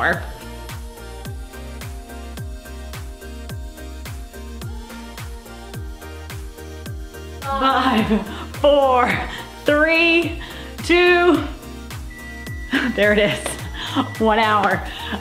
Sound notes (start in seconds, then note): 0.3 upbeat music; 9.4 microwave beeping